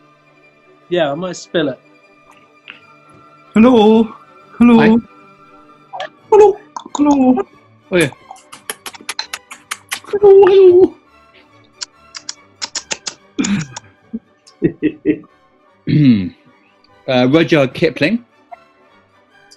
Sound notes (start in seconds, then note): 3.4 cooing; 5.8 cooing, clicking tongues, kissing noises; 15.8 clears throat